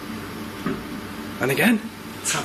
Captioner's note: thump